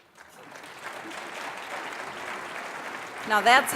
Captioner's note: applause